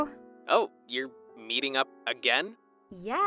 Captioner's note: phone vo